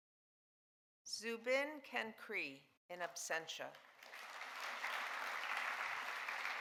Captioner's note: audience applauding